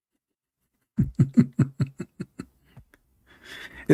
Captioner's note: Ketawa